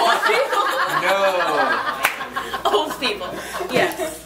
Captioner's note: claps hands